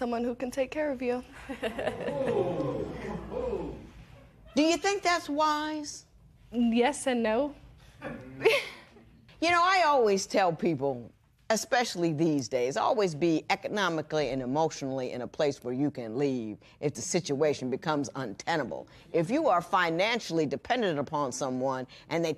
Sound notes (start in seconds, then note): 1.4 laughs; 1.8 spectators "ooh"; 8.1 laughs